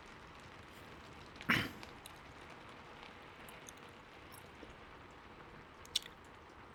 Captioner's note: SORRY for the loud cough